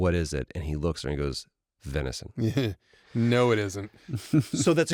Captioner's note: chuckles